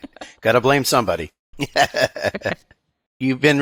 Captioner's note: laughing